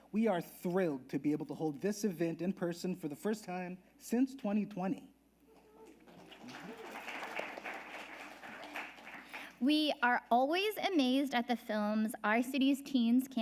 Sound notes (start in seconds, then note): 5.6 audience applauding